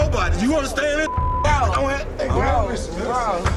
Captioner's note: beeping